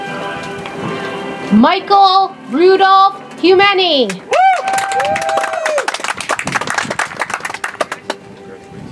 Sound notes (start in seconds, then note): 4.2 audience applauds